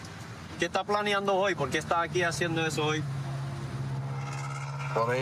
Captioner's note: speaking spanish